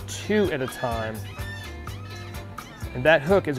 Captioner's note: seagull squawking